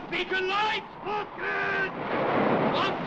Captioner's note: wave crashes